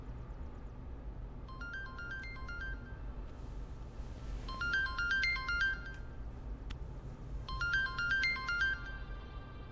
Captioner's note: phone Ringing